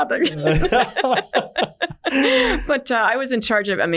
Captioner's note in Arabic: كلاهما يضحك